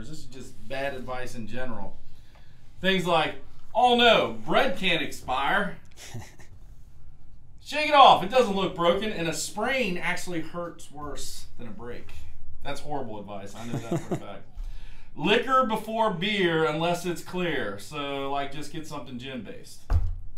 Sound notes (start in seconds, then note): 5.9 chuckles